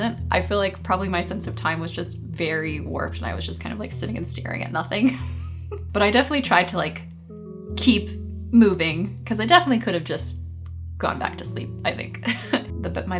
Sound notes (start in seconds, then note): 5.2 laughing; 12.2 chuckling